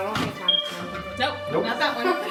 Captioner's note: beep!